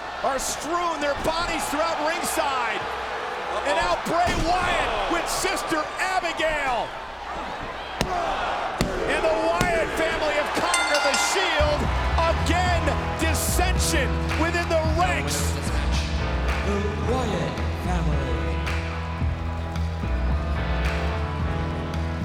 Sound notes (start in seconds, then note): 12.2 bell rings; 19.1 eerie music plays